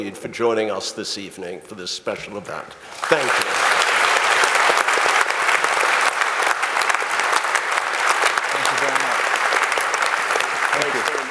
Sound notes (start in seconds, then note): 2.8 audience applauding